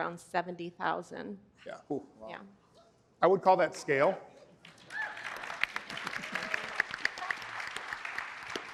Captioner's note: applause